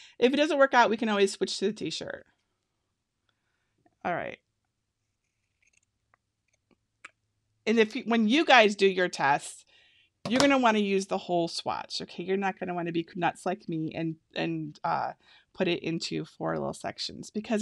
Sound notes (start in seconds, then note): 5.5 scissors cutting